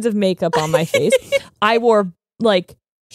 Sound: laughing

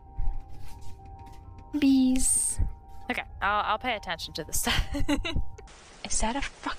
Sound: laughing

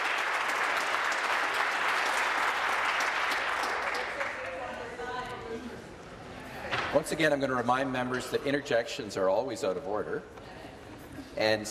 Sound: applause

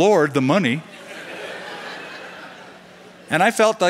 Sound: laughter

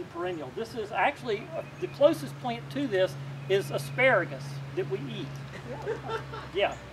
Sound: laughter

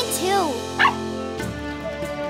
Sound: barking

